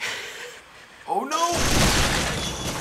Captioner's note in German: Blut spritzt